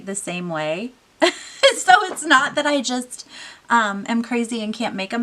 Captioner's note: laughing